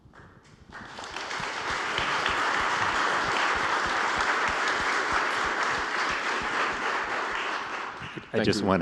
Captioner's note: applause